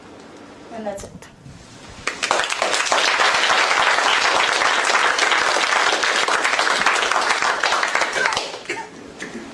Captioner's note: applause